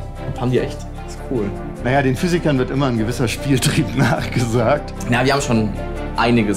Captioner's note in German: lacht